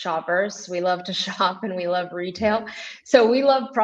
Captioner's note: chuckles